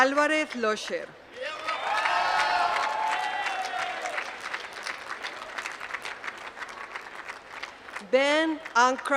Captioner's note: applause